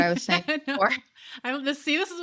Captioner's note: laughter